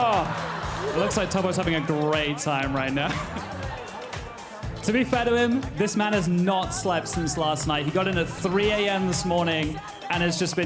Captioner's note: cheers and applause